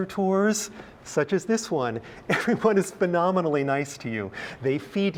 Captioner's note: laugh